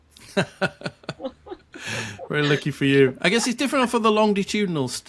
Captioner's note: laughing